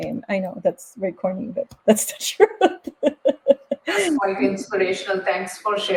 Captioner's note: laughs